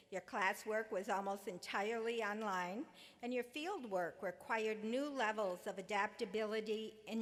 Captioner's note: none